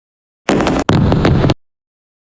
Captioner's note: fireworks